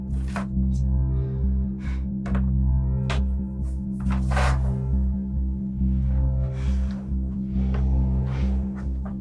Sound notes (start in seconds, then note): 1.9 Jen sighs